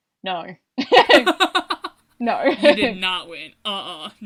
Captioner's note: laughs